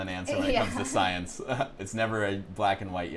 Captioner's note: laughs